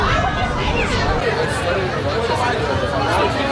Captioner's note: speaking in foreign language